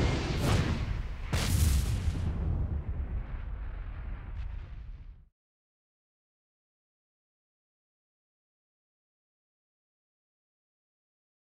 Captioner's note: whooshing sounds